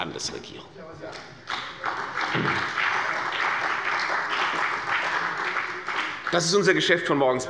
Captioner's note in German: Beifall bei der CDU und dem BÜNDNIS 90/DIE GRÜNEN